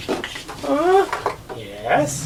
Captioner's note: monster grunts